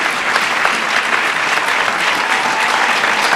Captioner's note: applause